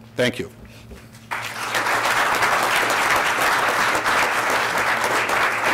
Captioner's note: audience applauds